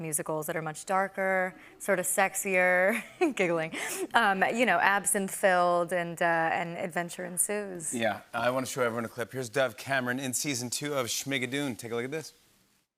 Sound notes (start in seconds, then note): none